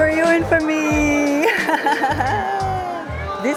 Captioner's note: laughs